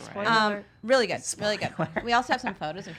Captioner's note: laughs